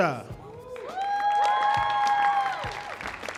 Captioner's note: audience cheering; soft upbeat music